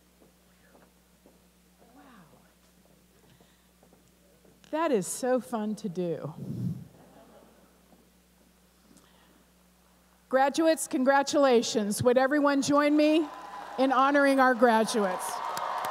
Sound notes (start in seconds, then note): 7.0 laughter; 15.7 applause and cheering